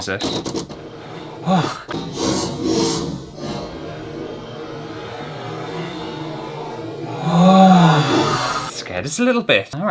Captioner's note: slow mo panic noises